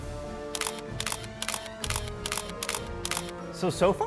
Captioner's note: camera shutter clicks